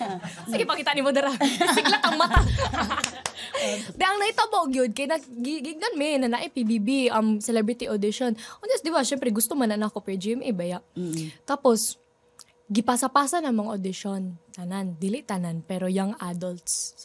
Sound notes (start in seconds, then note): 1.3 laughter